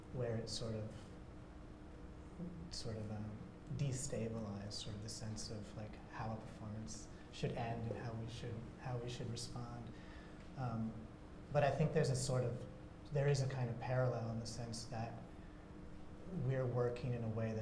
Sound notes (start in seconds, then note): none